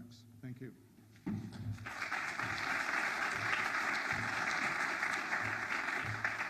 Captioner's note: audience applauds